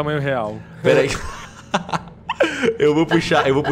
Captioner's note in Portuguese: Risos